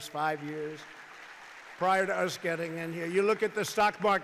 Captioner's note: applause